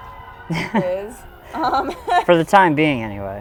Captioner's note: both laugh